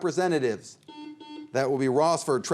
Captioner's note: buzzer beeps